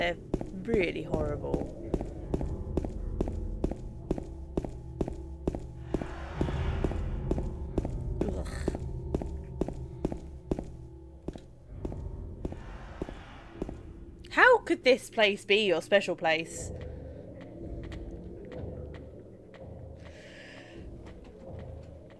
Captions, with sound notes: Yea. They're really horrible. [Disgusted noise] How could this place be your special place?!?!